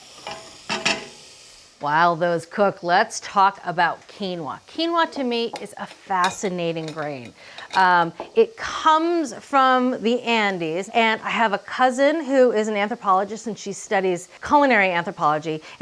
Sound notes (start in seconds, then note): 1.0 spoon clanging